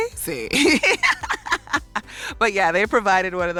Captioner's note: laughs